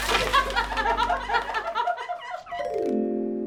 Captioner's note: scientists laughing; playing on xylophone